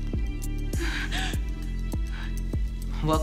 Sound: gasping

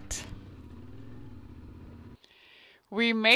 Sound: motorcycle engine roars

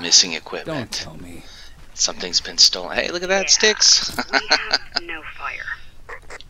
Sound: laughs

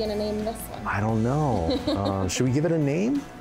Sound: laughs

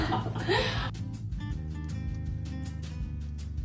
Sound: laughing

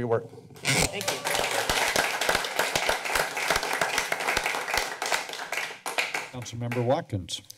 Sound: applause

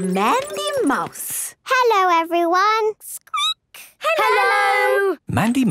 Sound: squeaking

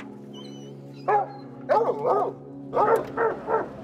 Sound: dogs barking

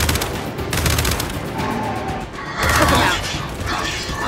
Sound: gunfire

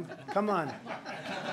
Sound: laughter

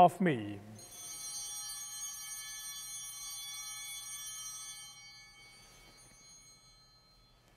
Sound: bell ringing

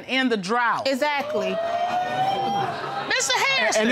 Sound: audience exclaiming

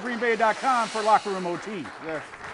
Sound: applause

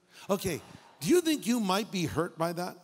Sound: audience laughing

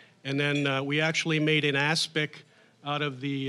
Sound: none

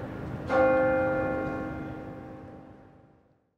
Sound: bell Rings

